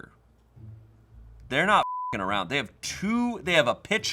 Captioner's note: beep